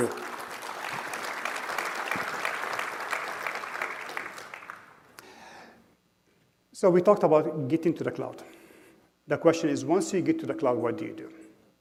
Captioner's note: applause